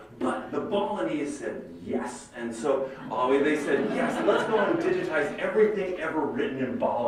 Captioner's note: laughter